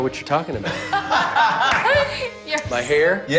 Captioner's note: laughter